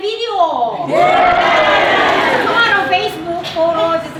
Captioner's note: cheering and laughter